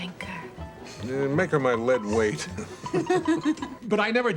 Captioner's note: Mavis Laughing